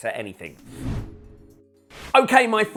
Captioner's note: screen wipe whooshes